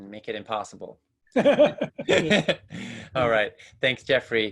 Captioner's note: both laughing